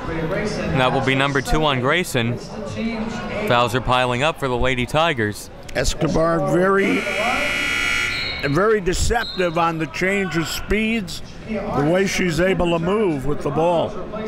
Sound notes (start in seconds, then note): 6.8 buzzer rings